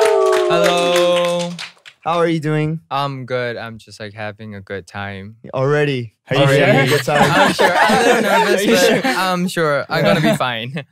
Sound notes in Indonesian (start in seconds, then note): 6.4 tertawa